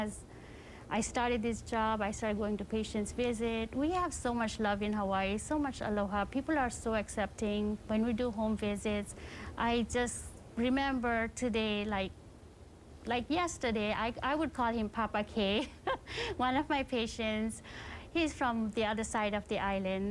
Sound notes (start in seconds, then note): 15.6 chuckling